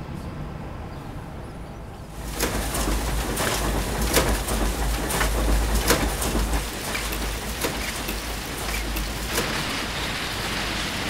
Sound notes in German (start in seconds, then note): 4.0 Maschinengeräusche